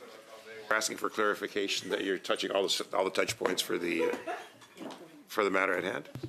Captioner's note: laughter